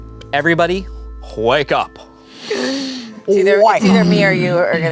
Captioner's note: gasps